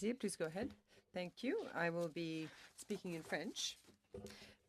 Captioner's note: speaking French